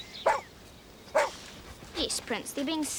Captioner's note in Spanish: perro ladrando